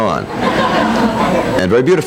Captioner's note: people laughing